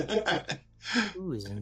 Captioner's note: laughing